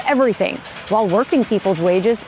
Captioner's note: machine rattling